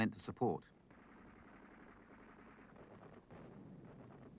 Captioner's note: weapons firing